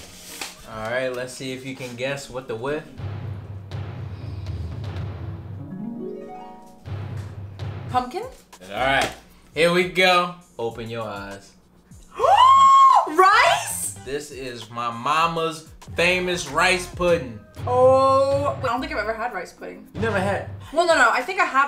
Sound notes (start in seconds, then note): 2.6 suspenseful music; 5.4 harp music; 6.8 suspenseful music; 12.2 gasps and screams